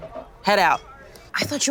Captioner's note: crowd buzzing